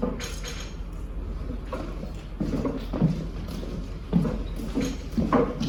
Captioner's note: clanking; footsteps